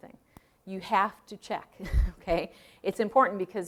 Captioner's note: chuckling